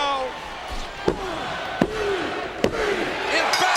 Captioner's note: bell rings